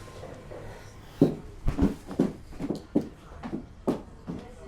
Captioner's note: footsteps tapping; people chattering